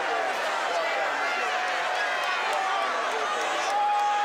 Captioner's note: crowd yelling